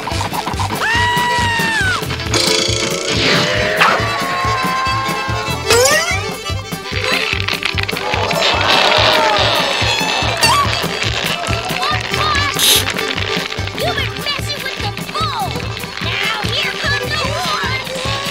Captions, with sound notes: [screaming] [screaming] SpongeBob! You've been messing with the bull! Now here comes the horse!